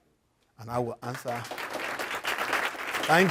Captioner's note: applause